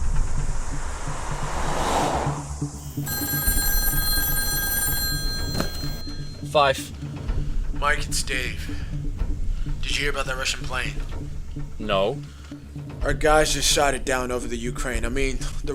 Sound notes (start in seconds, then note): 2.8 phone ringing